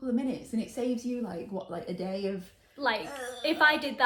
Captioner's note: grumbling